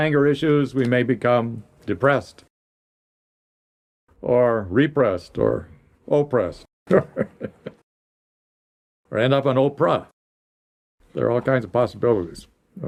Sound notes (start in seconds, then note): 6.9 laughs